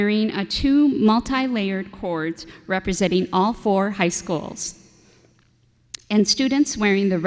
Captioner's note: none